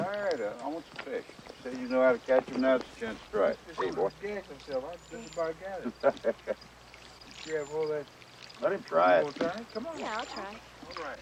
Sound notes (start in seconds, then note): 5.8 Cole laughs